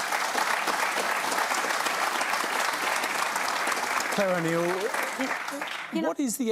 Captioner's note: applause